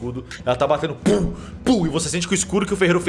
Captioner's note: pow pow